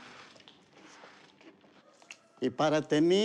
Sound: speaking spanish

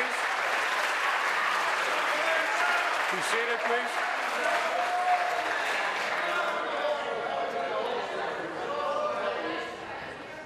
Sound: applause

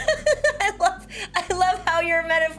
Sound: Annabelle laughs

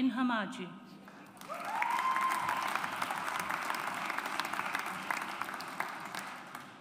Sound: audience applauds

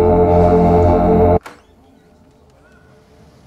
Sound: door opens

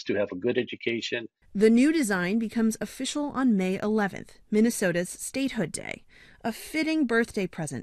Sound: voice-over

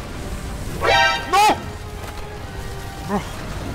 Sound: Metal Gear Solid Alert Sound effect

